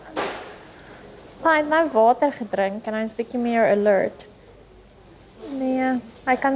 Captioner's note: speaking in foreign language